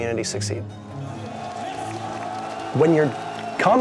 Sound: cheering

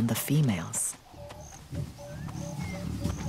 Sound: chirping

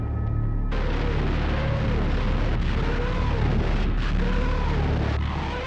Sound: rockets screaming

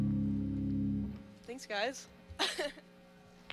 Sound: laughs

